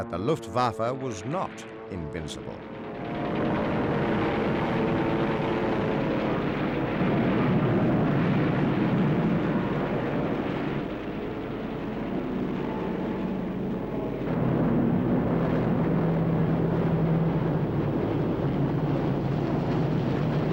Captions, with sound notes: that the Luftwaffe was not invincible. (planes buzzing)